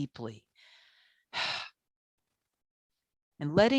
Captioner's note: deeply sighs